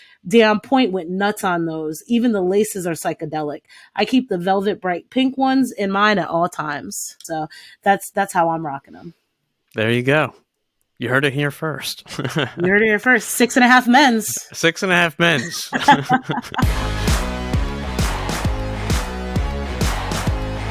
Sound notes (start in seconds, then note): 14.3 both laughs; 17.1 powerful upbeat music